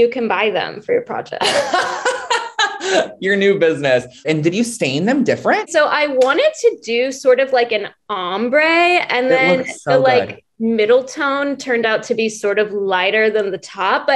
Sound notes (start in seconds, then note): 1.4 laughing